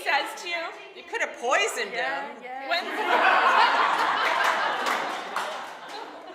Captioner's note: audience laughing